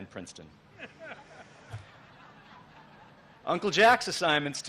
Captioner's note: laughter